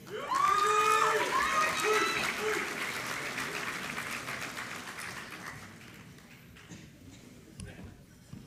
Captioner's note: applause